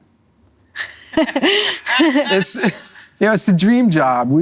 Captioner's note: laughter